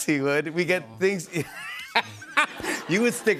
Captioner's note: laughs